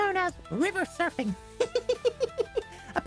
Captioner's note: laughter